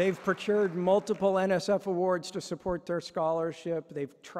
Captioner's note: applause